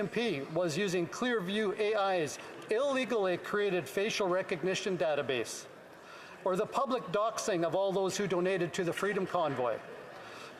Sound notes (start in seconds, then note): none